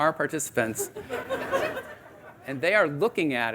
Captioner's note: audience laughing